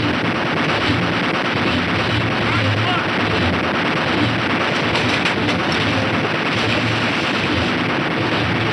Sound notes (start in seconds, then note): 0.5 gunshots